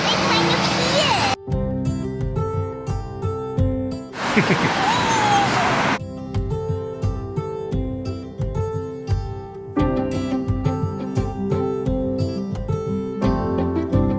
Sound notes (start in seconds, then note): 4.2 chuckles; 10.0 contemplative music